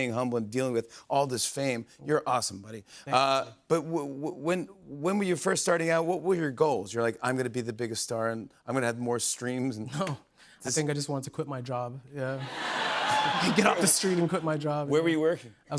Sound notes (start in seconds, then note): 12.4 laughter